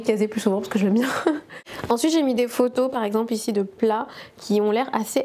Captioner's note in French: rires